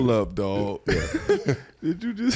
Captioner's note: laughs